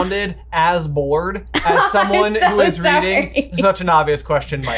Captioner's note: laughing